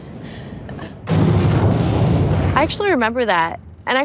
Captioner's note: object rumbling